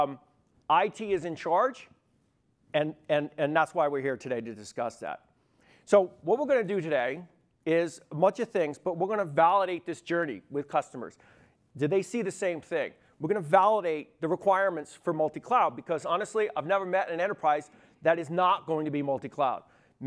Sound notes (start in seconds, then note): none